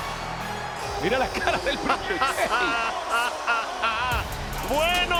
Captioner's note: laugh